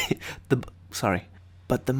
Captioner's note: laughs